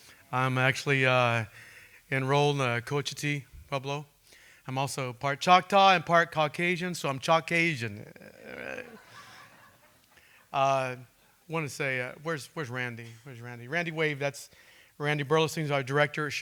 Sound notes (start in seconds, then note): 8.0 laughing